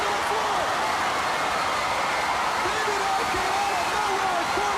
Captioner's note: crowd cheering